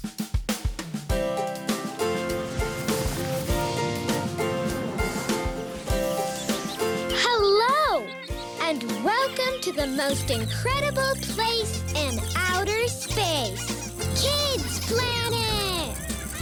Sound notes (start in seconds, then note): 0.2 upbeat instrumental music; 13.5 squeaking